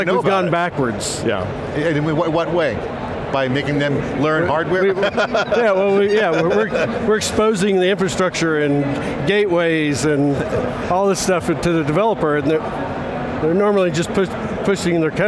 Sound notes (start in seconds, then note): 4.8 laughs